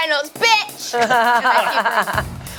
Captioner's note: laughs